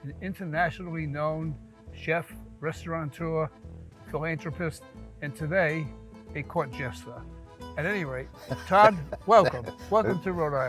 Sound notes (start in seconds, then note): 8.4 Todd laughs